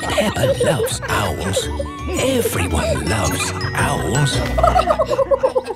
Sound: kids giggling; narrator whispering; laughing

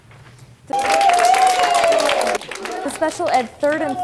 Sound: applause

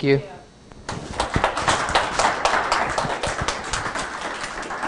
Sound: applause

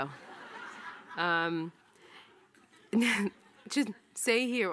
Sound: audience laughing

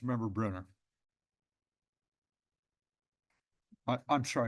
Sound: pause

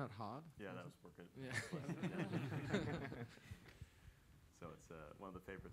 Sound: laughter

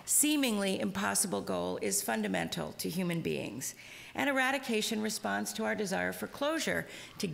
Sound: none

